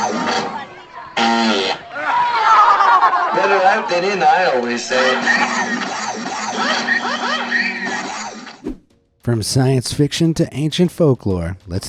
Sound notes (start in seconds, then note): 1.1 Titan farting; 2.4 crowd groaning